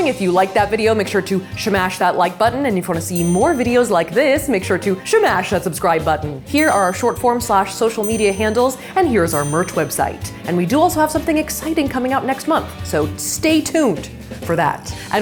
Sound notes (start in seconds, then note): 3.1 bell ringing